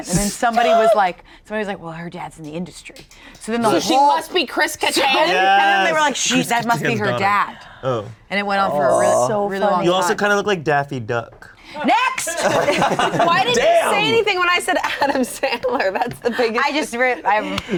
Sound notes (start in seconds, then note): 0.1 group laughs; 11.9 shouting; 15.5 laughing